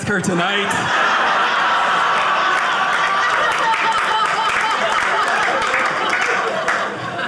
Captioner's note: audience clapping